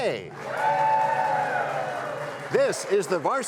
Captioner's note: cheers and applause